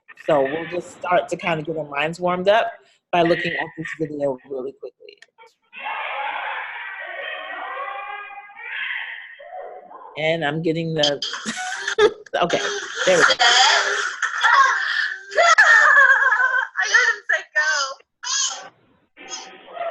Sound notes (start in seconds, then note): 5.7 child crying; 15.3 mom laughing